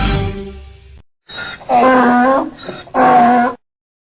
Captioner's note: donkey Sound